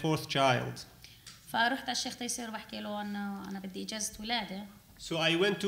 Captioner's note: speaking arabic